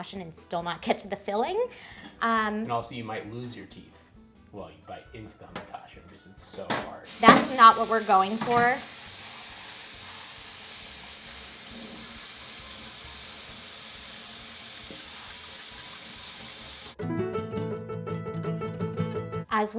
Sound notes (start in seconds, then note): 9.0 water rushing; 17.0 bright adventure music